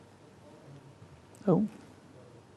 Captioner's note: crew chattering faintly